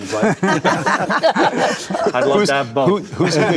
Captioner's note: group laughing